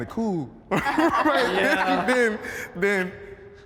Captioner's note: everyone laughing